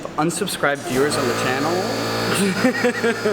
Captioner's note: air compressor running buzzing; laugh